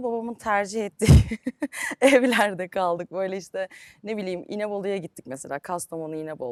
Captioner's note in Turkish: kahkaha